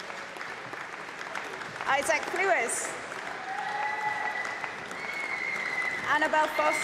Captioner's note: applause